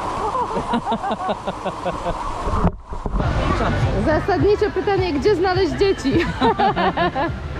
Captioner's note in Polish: śmiech